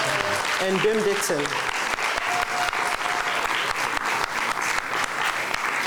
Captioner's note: clapping